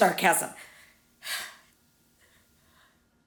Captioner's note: sighs